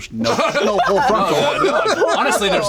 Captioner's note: laughter